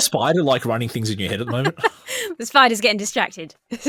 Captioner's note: laughs